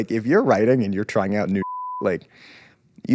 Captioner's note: beep